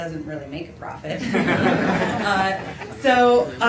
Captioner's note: laughter